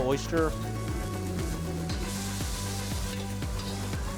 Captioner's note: pans sizzling